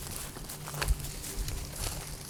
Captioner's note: footsteps